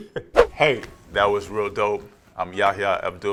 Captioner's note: air whooshing